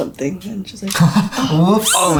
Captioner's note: laughs